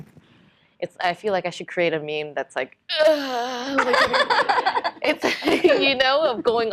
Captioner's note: groaning